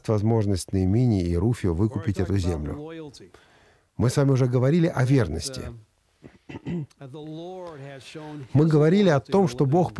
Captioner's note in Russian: откашливается